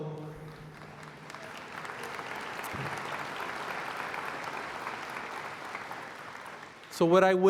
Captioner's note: applause